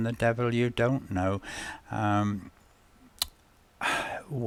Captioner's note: sigh